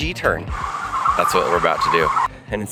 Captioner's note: tires squealing